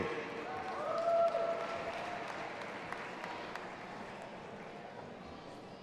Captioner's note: audience applauding and cheering